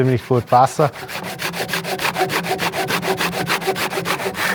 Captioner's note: A steady scraping sound